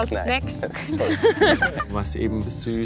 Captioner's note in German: lacht